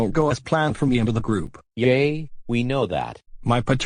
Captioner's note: none